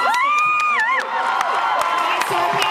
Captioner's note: cheers